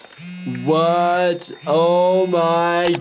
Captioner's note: phone buzzing